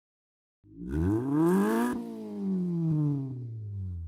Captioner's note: engine revs